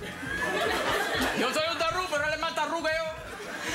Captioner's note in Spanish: Risas del público